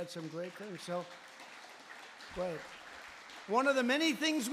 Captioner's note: applause